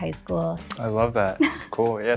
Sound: laughs

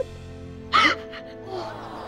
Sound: crying

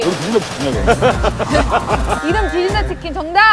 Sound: laughing

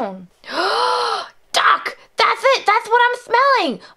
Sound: gasps

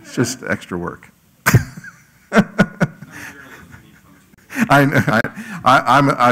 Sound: laugh

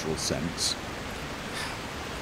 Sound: huff

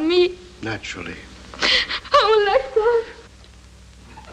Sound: weeps

